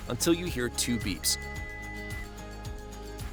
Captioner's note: electronic beeps